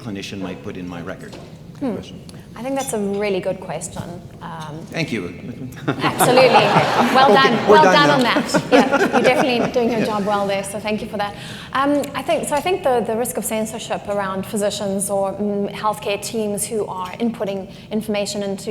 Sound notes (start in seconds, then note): 5.7 audience laughing